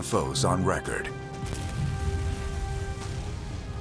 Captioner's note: explosion